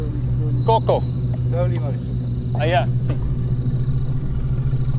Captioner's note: Spanish spoken audio